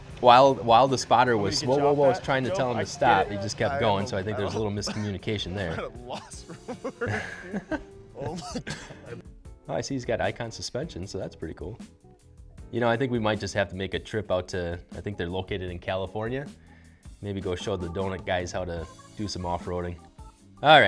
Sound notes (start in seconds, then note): 6.3 laughing